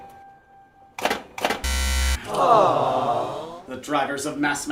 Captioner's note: buzzer... a disappointed audience says, "aww"